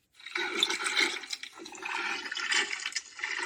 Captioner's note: water gurgles